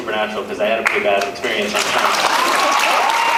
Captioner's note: applauds; applauds, cheers